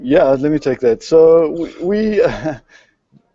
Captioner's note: laughs